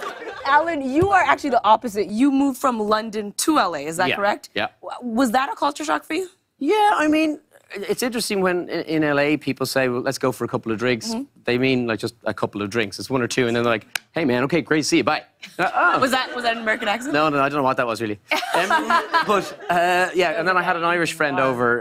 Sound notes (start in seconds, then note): 0.0 laughter; 13.7 American accent